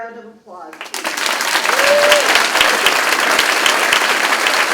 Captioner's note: crowd claps and cheers